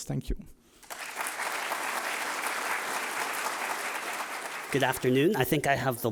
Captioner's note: audience applauding